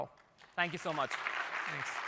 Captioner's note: applause